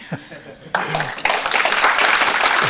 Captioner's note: applause